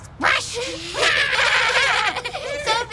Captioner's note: laughter